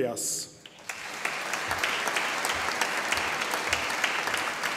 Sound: audience applauding

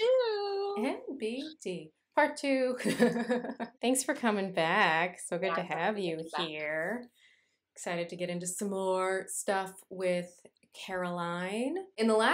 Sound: laughter

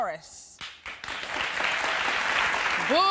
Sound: audience applauding

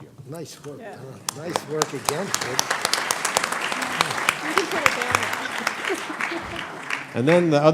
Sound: applause

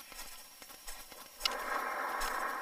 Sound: breathing

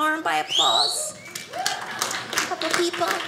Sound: audience applauding

